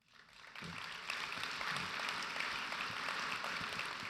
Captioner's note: audience applauds